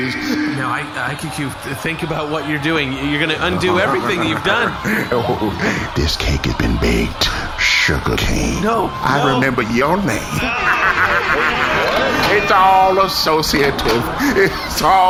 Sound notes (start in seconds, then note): 5.9 laughs maniacally; 6.1 murmuring intensely; 12.6 laughing